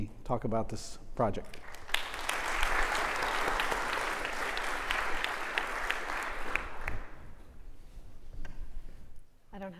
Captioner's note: applause